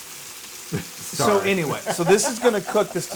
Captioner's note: laugh